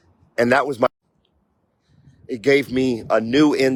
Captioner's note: audio mutes